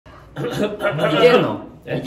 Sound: clears throat

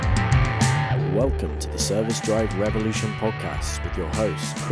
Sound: groovy instrumental music; voiceover

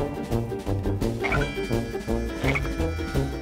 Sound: croaks

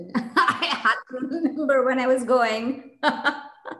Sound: laughter; laughter

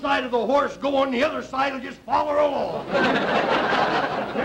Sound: audience laughter

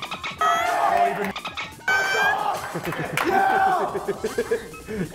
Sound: laugh

